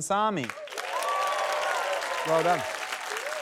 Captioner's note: cheering, applause